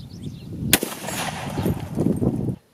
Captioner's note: gun fires